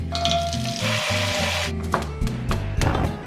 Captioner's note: chill music; water running; stove turns on